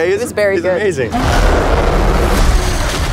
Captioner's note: growling